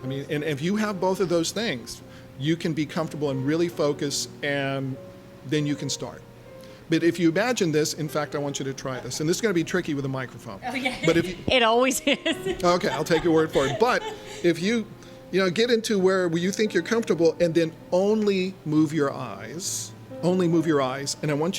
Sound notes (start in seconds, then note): 11.9 laughing